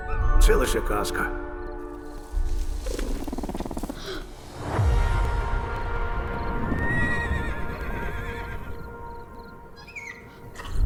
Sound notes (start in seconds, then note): 2.0 rustling; 2.7 creature chitters; 3.9 gasps; 4.7 tense music playing; 7.1 horse neighs; 9.6 creature squeals; 9.6 gasps